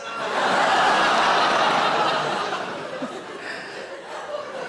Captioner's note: audience laughing